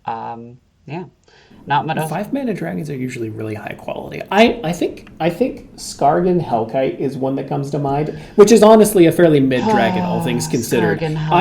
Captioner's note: dreamy sigh